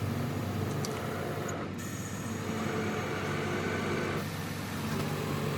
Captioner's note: truck hydraulics whirring